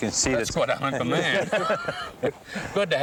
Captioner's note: all laughing